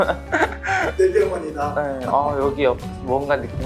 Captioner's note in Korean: 웃음